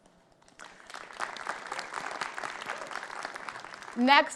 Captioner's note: audience clapping